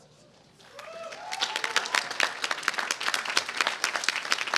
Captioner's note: applause